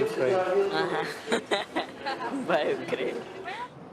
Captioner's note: starts laughing